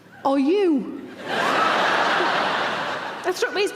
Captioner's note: audience laughing